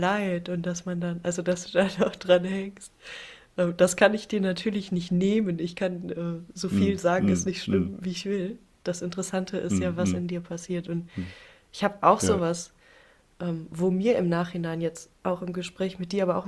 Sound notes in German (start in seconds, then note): 7.2 räuspern